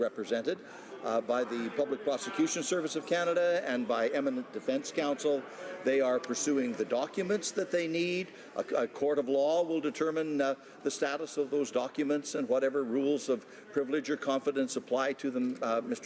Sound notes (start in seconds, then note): none